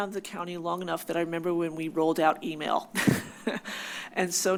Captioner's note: laughs